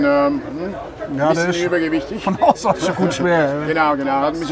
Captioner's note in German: lacht